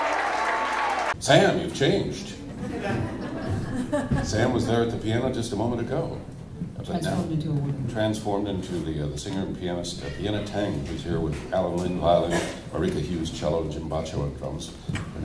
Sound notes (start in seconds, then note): 0.0 applause; 2.4 audience laughs